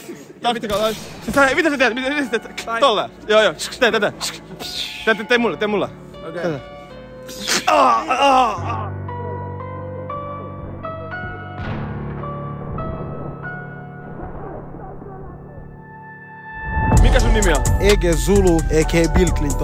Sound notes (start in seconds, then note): 7.2 groans